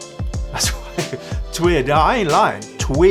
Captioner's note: laughs